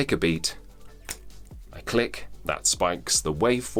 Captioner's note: snaps